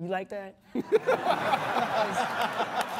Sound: all laughing

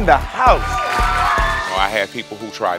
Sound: audience cheers

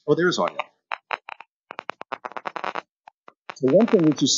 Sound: cracking sounds

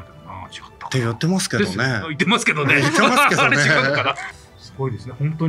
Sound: laughs

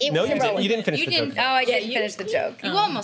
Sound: overlapping chatter

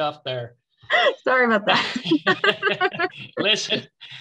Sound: both laughing

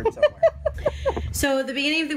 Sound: laughing

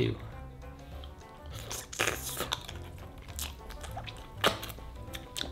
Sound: slurping sounds; lip smacking

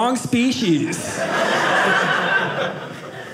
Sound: audience laughing

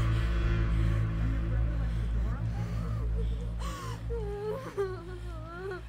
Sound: family chattering softly

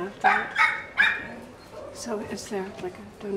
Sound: small dog whimpering

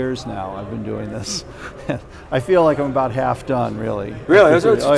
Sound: laughs

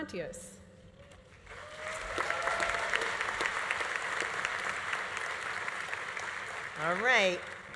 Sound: audience applauding; audience cheering

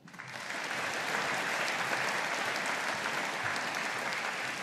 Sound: audience applauding

